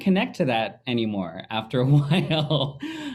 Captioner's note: laughing